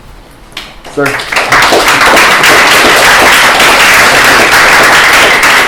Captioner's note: applause